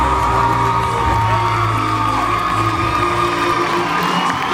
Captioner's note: audience cheers, applauds; cheers, applauds